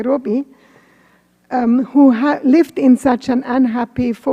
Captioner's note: none